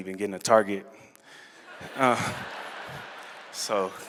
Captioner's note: laughter